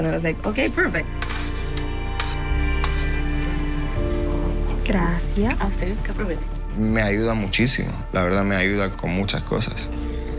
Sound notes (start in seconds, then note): 1.1 utensils scraping; 5.1 speaking in Spanish